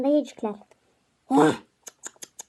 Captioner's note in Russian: неодобрительно цокает языком